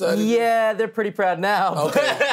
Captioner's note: laughs